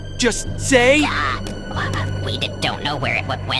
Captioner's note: battle droid screams in terror